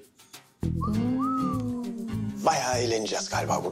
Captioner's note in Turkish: Islık çalıyor